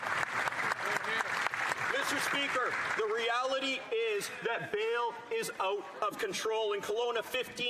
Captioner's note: some Applause